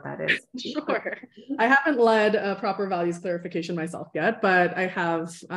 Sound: laughter

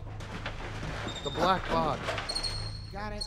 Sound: bats chirping

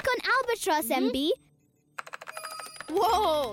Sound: keyboard clicking; chiming

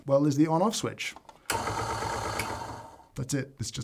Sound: grinder whirring

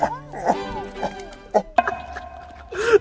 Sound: sobbing

